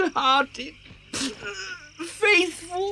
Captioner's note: cries